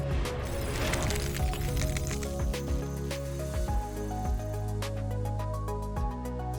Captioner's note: air whooshing; gentle music continues; letters clattering